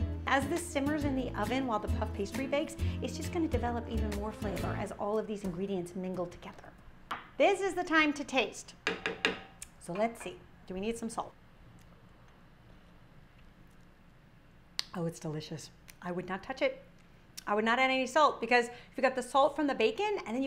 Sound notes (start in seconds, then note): 8.9 tapping ladle on skillet